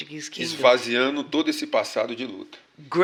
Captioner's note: speaking portuguese